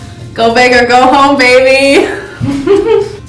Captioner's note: laughing